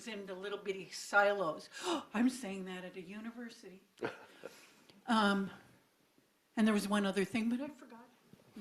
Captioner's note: gasp